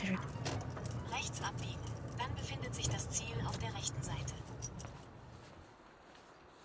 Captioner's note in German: Navigator-Stimme